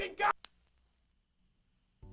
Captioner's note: click